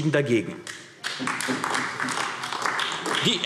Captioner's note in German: Beifall AfD